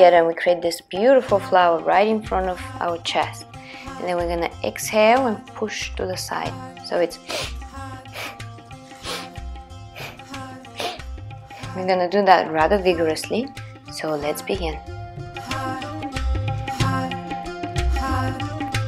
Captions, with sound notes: together will create this beautiful flower, right in front of our chest. And then we're gonna exhale, and push to the side. So it's (loud breathing). We're gonna do that rather vigorously. So let's begin. (upbeat music)